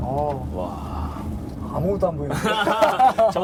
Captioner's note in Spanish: risas